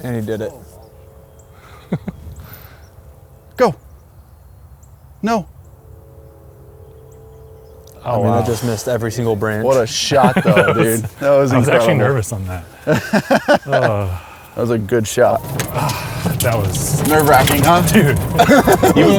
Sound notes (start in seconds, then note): 1.7 laughs; 13.7 laughs; 18.7 laughs